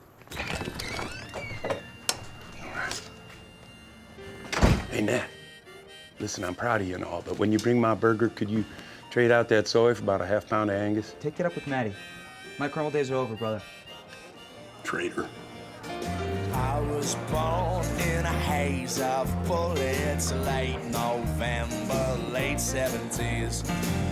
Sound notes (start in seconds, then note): 0.0 door creaks open; 4.2 door closes